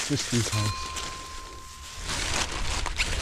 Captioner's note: leaves rustling; plastic rustling